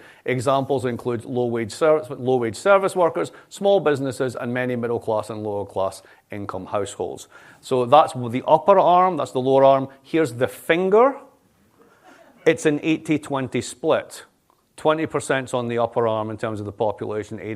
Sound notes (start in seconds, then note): 12.0 laughter